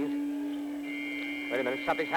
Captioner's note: siren